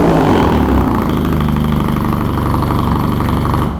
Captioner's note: engine revving